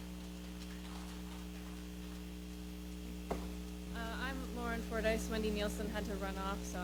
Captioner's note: applause